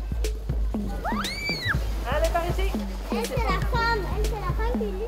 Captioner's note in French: cri d'un enfant